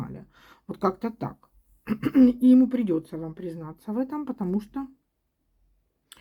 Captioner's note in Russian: откашливается